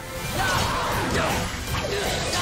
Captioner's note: harry grunting